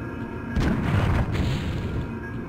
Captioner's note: rock falling